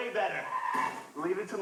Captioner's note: tire screeching